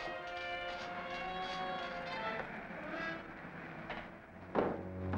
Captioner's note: engine rumbling